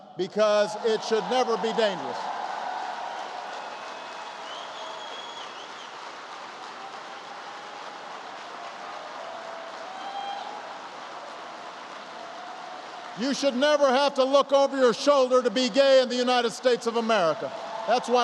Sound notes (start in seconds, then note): 2.1 applause